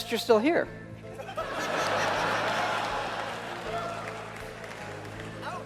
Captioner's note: audience laughing